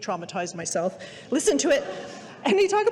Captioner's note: audience laughing